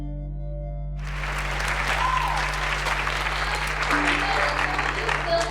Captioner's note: applause